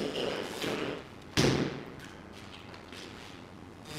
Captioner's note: thump